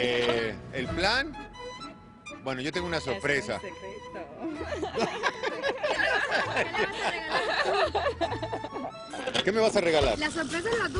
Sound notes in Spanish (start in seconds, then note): 1.1 risas